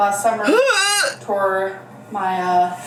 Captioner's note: groans